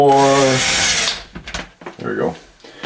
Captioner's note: whirring